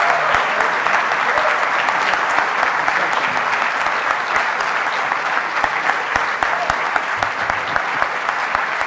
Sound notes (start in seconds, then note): 4.0 audience applauding